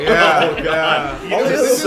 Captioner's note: laughter; applause